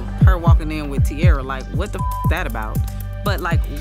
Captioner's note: beep